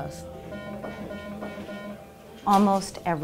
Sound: school bell rings

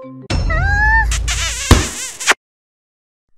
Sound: kissing

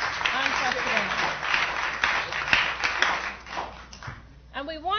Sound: applause

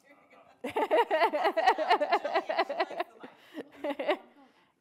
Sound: laughing

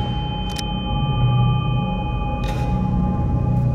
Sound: gun cocking

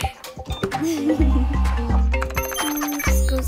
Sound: giggling; whirring

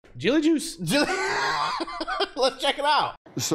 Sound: laughter

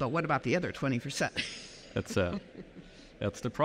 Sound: chuckles

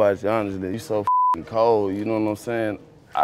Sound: beep

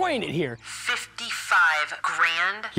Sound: on phone

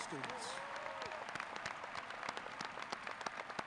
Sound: crowd cheering

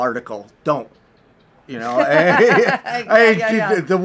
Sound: laughs

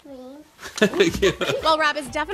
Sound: Rob laughs

